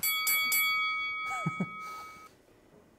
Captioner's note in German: Lachen